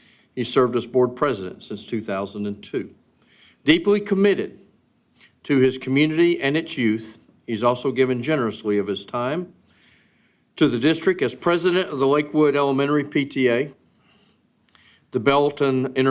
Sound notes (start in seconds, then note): none